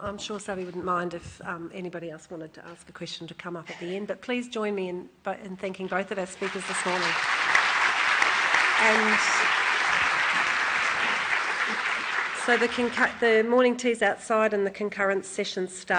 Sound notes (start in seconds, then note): 6.3 applause